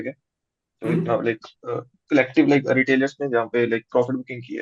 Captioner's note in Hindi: गला साफ़ करने की आवाज़